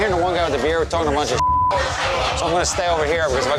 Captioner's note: beep